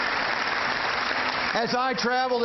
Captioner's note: cheering